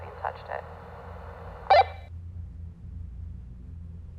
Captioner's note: walkie-talkie blips